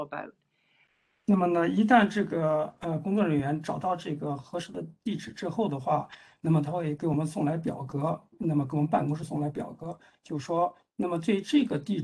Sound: speaks in Mandarin

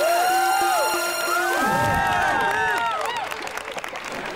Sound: cheering

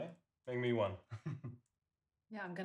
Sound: brother chuckles

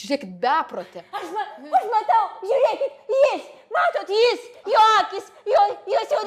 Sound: shouting

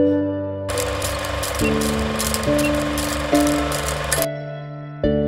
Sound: music continues; camera whirring; music continues

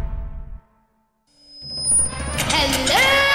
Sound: microphone feedback

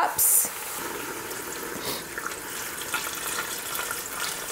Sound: pouring water

